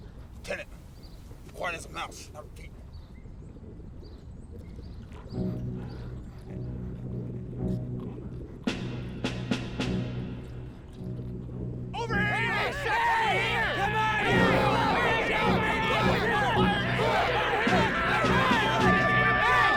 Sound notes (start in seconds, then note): 5.6 suspenseful music; 12.1 all shouting